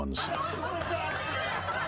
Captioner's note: laughter